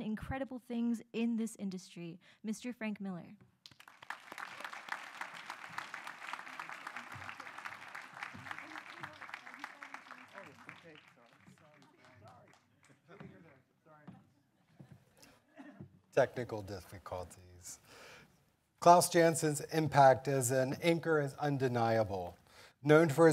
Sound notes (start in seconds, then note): 4.1 audience applauding